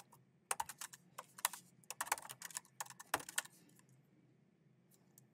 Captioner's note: keyboard clacking